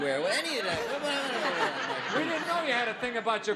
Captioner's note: audience laughing